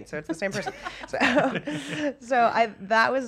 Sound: laughter

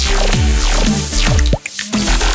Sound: drip

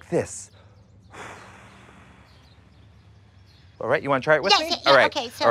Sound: exhales

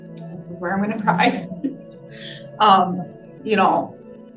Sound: laughs

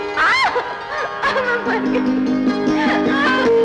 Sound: laughing

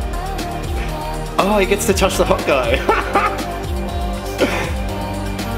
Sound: laughs

